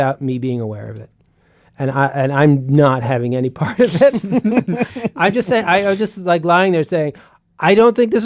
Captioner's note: laughs